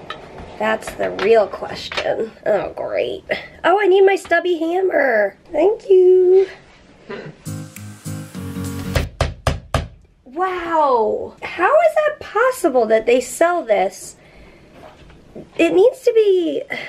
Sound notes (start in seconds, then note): 8.9 hammering